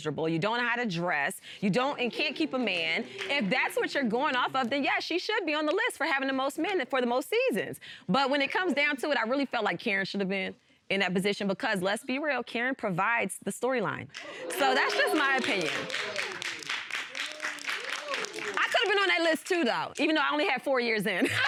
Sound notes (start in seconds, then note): 14.3 all exclaiming; 15.6 audience clapping; 21.2 all laughing